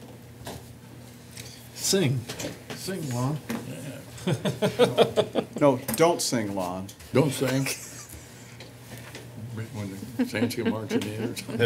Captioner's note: laughter; more laughter